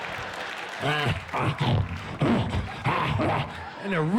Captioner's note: grunts and snarls